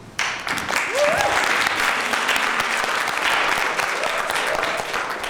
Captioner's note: applause